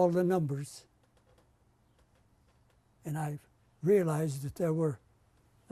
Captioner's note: pauses for 3 seconds